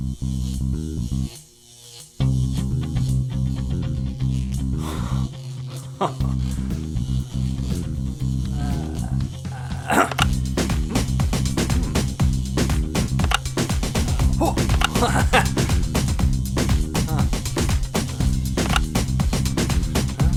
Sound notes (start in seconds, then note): 5.5 gasps with glee, chuckles in anticipation; 9.4 grunts, buttons click